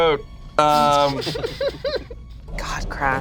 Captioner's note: group laughs